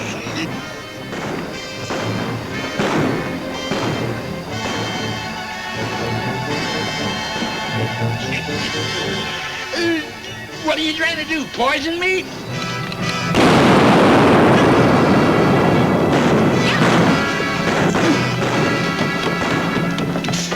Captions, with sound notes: (guns bang) (tense music) - What are you trying to do, poison me? (safe booms) (guns bang) (exciting music)